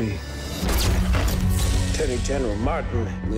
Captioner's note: cameras flashing